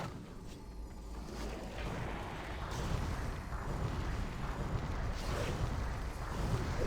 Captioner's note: wind blowing